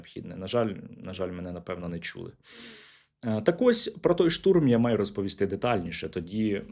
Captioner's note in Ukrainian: сопіння